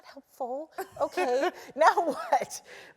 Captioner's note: laugh